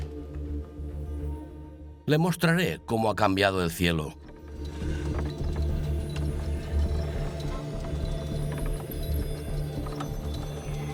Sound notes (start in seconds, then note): 4.2 dramatic music; 4.2 wood creaking